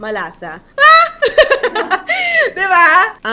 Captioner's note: laughs